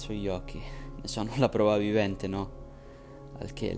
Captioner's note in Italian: con tono beffardo